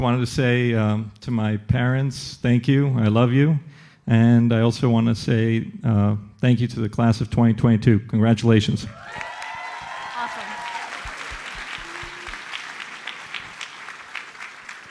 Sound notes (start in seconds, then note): 8.9 audience cheers and applauds